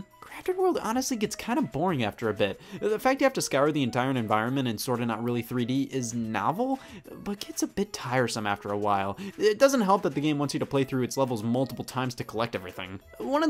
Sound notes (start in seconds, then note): none